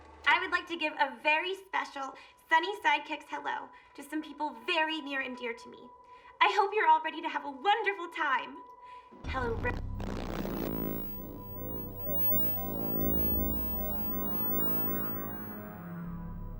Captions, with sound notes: - I would like to give a very special Sunny Sidekicks hello to some people very near and dear to me. I hope you're all ready to have a wonderful time. Hello... (audio cutting out) (audio distorting) (ominous music)